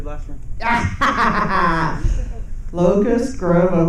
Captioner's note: laughing